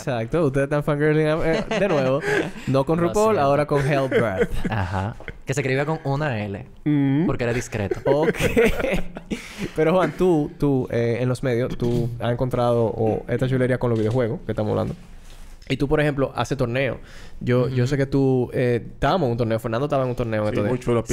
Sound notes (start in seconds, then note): 1.4 laughs; 7.5 laughs